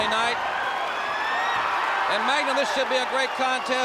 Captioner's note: crowd cheering